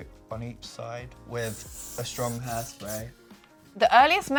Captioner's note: hairspray spraying